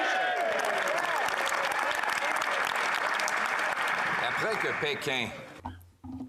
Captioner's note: applause